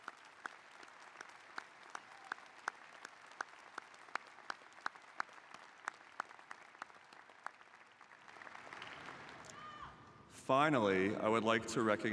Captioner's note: applause